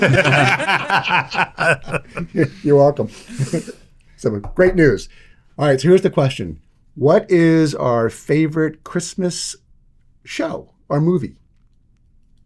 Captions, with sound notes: (Laughter) Great news. Alright, so here's the question. What is our favorite Christmas show or movie?